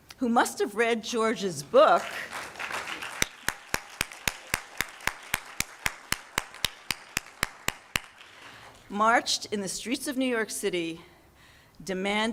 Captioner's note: claps